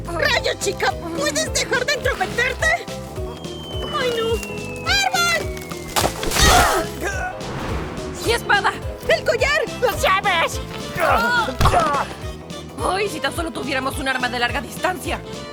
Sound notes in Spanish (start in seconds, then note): 6.4 Se quejan del dolor